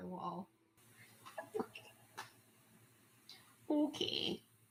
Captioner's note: quietly